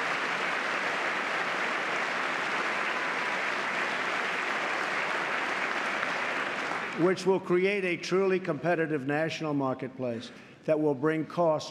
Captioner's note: applause